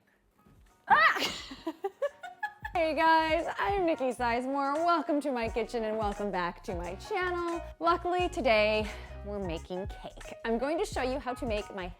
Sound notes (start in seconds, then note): 0.8 yells; 1.0 laughing